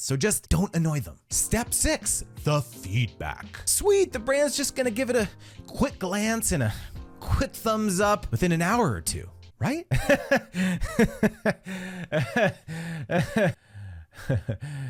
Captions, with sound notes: So just don't annoy them. Step six, the feedback. Sweet, the brand's just gonna give it a quick glance and a quick thumbs up within an hour or two, right? (laughing loudly)